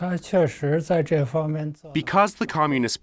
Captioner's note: speaking foreign language